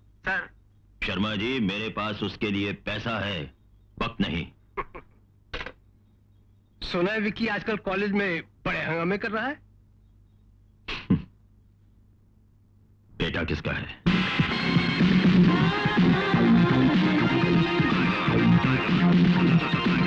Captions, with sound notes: Mr. Sharma, I have money for him, but not time. (Chuckles) (Receiver hang up) I've heard these days Vicky is creating an uproar in college. (Chuckles) After all, he is my son!